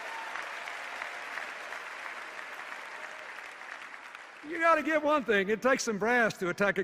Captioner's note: cheers and applause